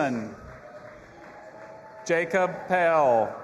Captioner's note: audience applauding and cheering